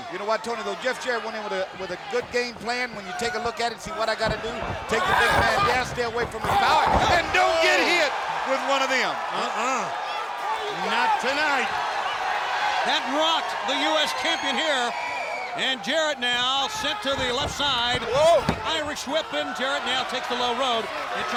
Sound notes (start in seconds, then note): 6.9 body thudding; 9.0 crowd cheering; 11.7 crowd cheering; 16.6 body thudding; 16.6 footsteps plodding